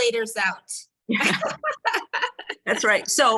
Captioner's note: both laugh